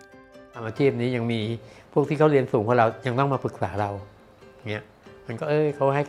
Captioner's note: speaking foreign language